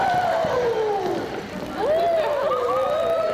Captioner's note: all oohing